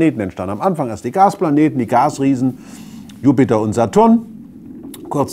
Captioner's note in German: Rauschen